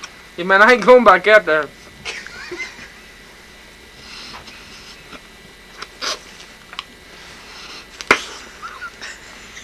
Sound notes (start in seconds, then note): 8.0 pop